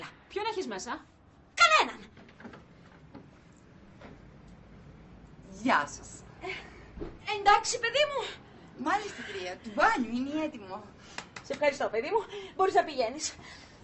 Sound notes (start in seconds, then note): 5.4 foreign accent